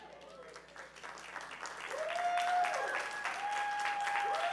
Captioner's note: audience cheering